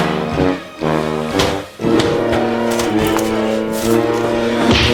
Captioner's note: both grunting